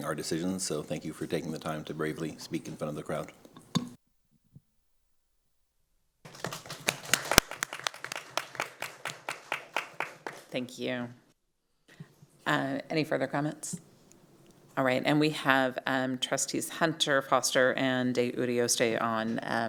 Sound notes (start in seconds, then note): 9.5 applause